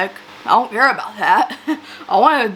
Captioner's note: laughs